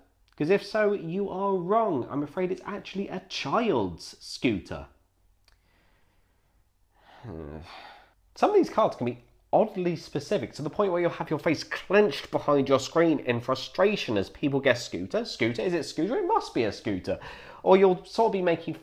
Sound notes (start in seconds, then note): 7.2 groans